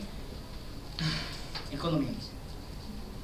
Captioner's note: sigh